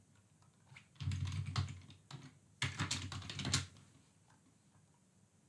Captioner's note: keyboard clicking